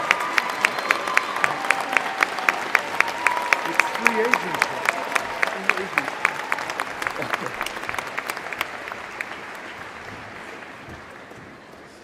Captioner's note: applause